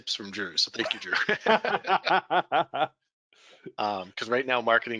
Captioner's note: all laughing